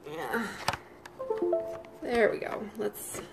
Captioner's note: phone beeping